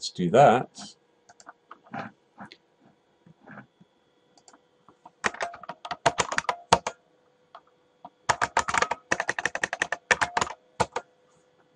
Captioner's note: typing